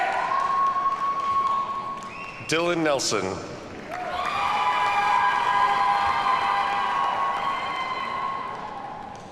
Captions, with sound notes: Dylan Nelson. (audience cheers and applauds)